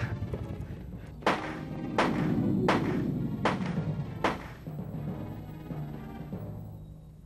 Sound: gunshots, monster growls

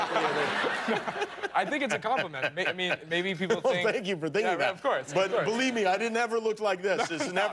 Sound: laughter

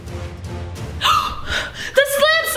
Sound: exclaiming

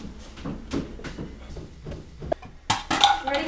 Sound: footsteps

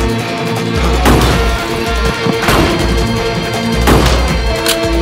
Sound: gunshot

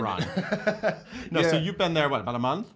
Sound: laughs

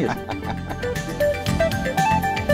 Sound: laughs

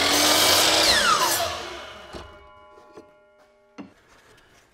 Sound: machine buzzing

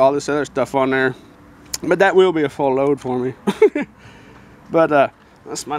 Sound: laughing

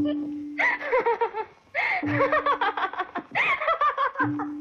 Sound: laughing

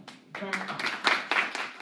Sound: applause

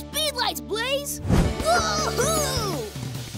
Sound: cheering

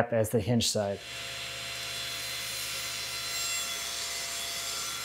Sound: saw zings

